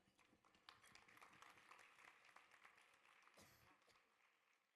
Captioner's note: audience applause